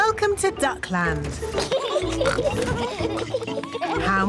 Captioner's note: both giggling